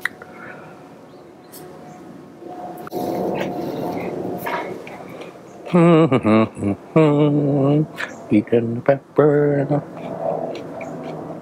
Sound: chewing and humming a tune

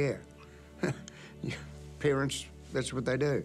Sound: chuckles

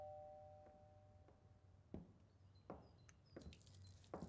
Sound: door bell ringing; feet stomping

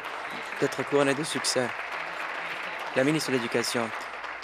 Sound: applause

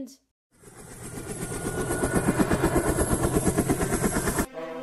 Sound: helicopter Leaving

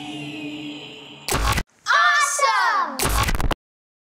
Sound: screen buzzes

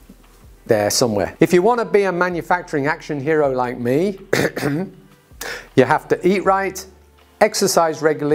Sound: ahem

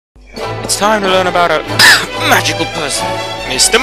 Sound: cough

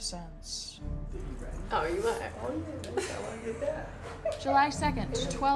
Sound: indistinct chatter

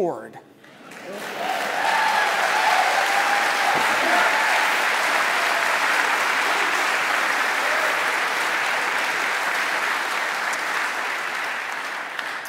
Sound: applause

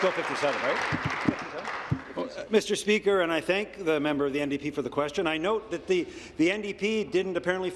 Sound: applause

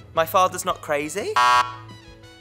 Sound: incorrect sound

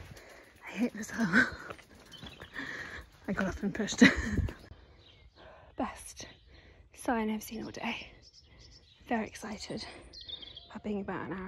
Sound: sound of water and birds chirping

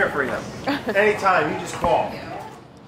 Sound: chuckles

